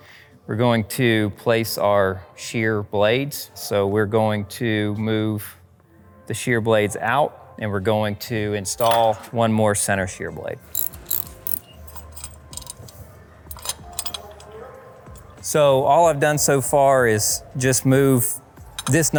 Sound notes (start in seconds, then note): 10.7 ratchet clicking; 13.5 light music